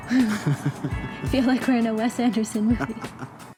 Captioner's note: haha